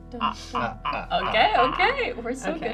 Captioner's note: maniacally laughs